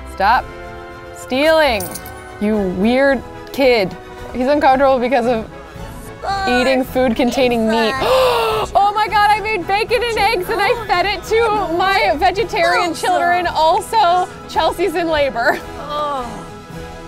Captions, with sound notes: Stop stealing, you weird kid. He's uncomfortable because of eating food containing meat. (gasps) Oh my God, I made bacon and eggs and I fed it to my vegetarian children. Also, Chelsea's in labor.